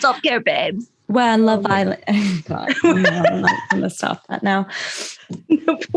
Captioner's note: laughter